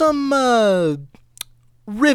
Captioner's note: lip smack 2 electric boogaloo